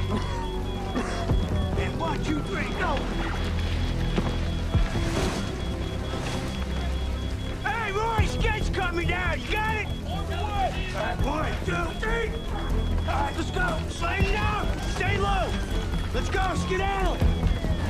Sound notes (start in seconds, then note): 0.7 coughing